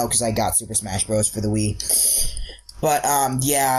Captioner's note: inhales deeply